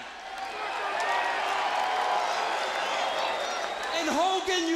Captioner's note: crowd cheering